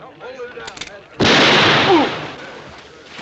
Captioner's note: background chatter; bang!